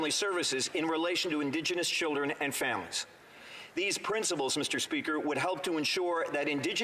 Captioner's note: none